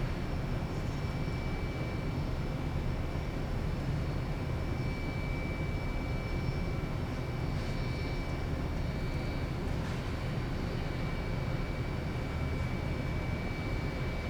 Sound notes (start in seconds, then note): none